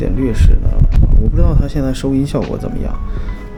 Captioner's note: air conditioning outlet blowing directly sound; 空调出风口直吹的声音